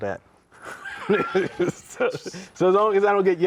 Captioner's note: both laugh